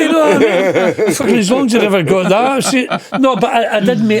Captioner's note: laughing